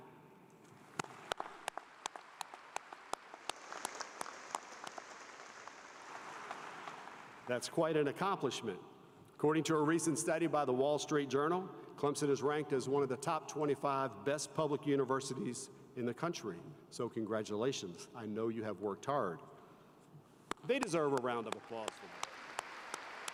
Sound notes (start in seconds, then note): 11.4 applause